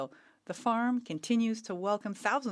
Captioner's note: speaking French